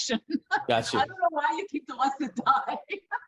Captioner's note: laughing